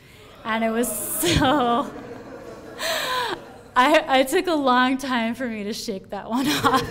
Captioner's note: laughs